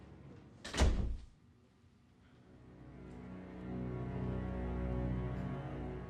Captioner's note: door closes